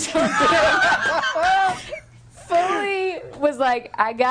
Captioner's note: others laughing